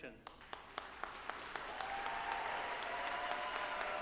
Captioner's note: audience applauding